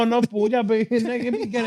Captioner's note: speaking Foreign Language